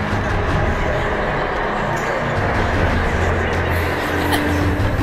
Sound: people laughing

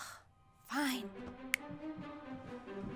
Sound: snaps

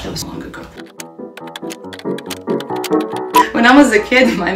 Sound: funky music; keyboard clacking

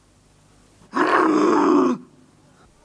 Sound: grumbles annoyed

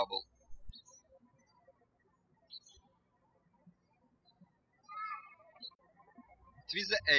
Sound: birds chirping

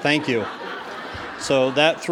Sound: audience laughs

